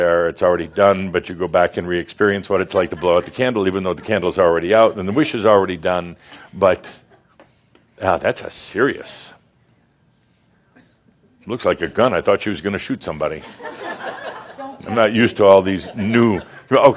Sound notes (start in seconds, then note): 13.4 laughter